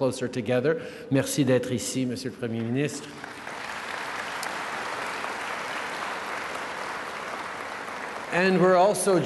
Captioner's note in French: Applaudissements